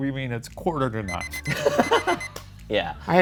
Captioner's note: alarm beeps; laughs